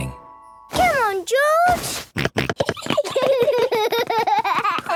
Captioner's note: George snorting; both giggling; George laughing